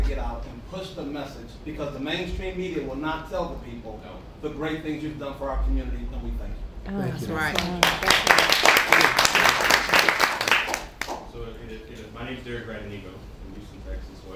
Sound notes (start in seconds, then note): 7.0 applause